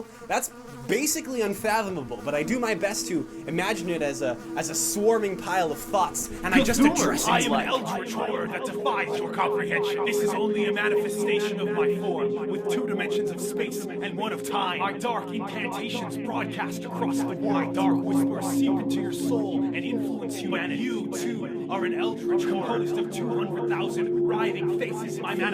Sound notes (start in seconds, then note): 7.2 voice echoing